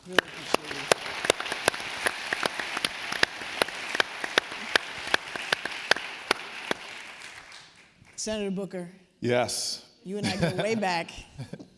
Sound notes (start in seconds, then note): 2.9 applause